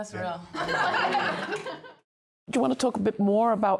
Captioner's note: everyone laughing